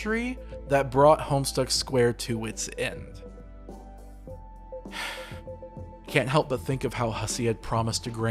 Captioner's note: sigh